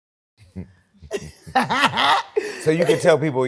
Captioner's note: laughs